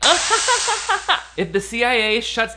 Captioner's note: presenter laughing